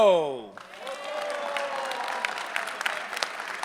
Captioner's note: applause